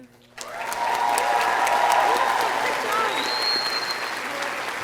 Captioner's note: audience cheering